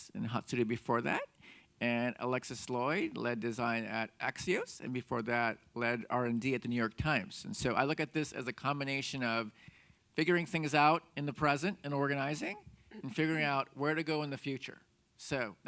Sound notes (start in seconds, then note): none